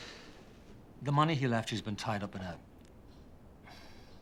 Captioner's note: sigh